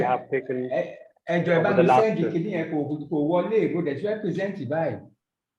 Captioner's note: man speaking foreign language